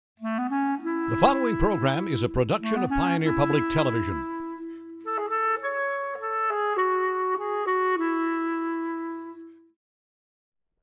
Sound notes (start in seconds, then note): 1.3 voiceover; 5.6 flute music